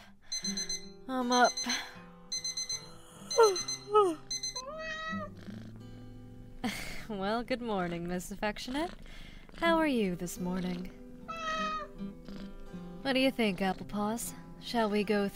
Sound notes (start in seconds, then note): 1.3 yawns; 2.3 cat meows and purrs; 11.2 cat meows